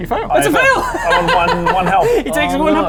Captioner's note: sadistic laughter